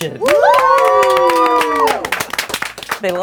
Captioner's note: cheering